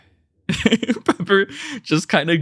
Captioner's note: laughs